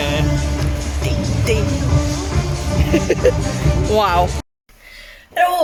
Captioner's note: laughing